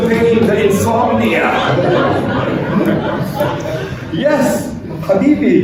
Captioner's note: laughter